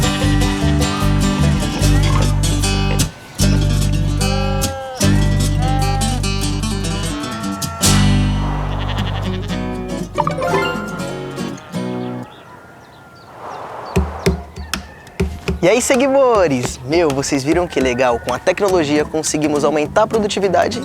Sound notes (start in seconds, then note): 0.0 nature sounds; 10.2 notification